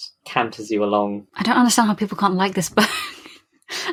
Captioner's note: laughing